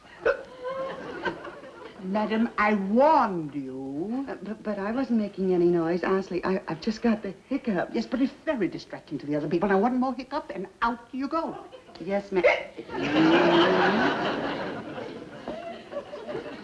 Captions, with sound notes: (hiccups) - Madam, I warned you! - But I wasn't making any noise. Honestly, I've just got the hiccups. - Yes, but it's very distracting to the other people and one more hiccup, and out you go! - Yes ma'am (hiccups) (audience laughs)